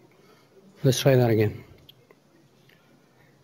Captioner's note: pause